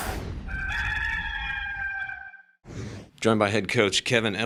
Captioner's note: cock crows